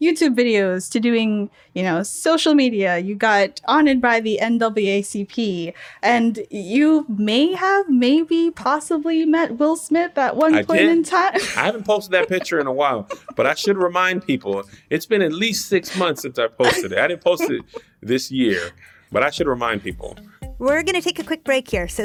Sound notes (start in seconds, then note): 11.2 laughter; 15.8 laughter